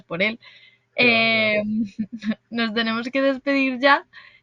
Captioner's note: laughs